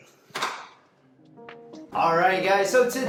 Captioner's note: door handle clicks